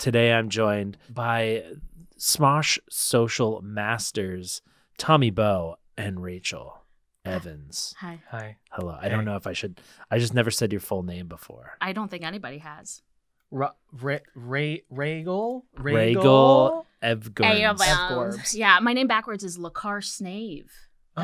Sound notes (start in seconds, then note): 13.6 stammering